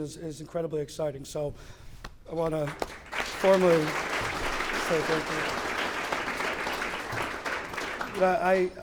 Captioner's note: clapping